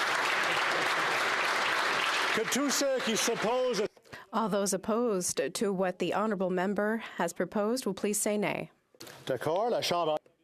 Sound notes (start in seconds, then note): 2.8 some Applause; 4.2 applause